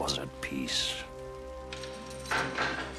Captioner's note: keys jangling; door opens